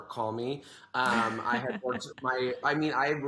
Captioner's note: laughs